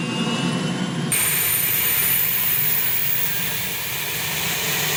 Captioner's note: blades whirring